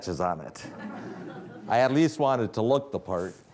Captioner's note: audience laughing